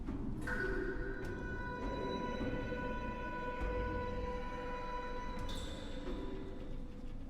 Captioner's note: sustained metallic sound